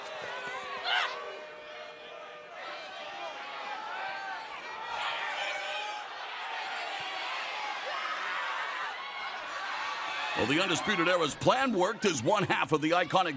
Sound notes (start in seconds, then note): 9.7 cheers and applause